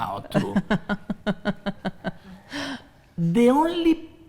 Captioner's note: laughs